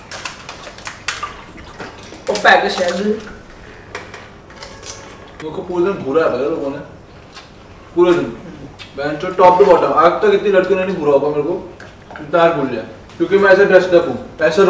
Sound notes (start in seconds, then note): 2.2 happy noises